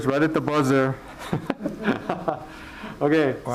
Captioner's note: laughing